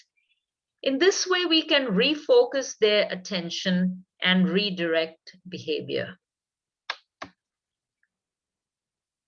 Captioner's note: keyboard sound